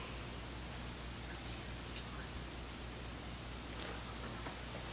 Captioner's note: hushed whispering